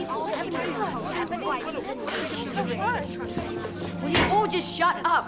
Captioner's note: crowd chattering